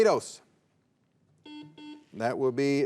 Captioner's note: buzzer beeps